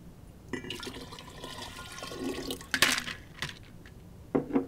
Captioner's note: water pouring